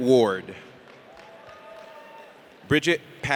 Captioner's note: audience cheers